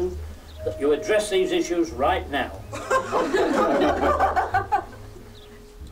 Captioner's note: laughter